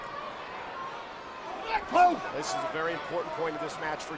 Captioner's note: crowd murmuring